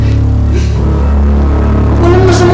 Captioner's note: Benj sniffles